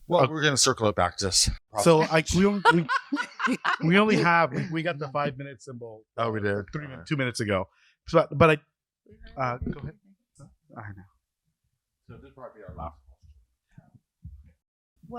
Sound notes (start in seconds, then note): 1.8 laughter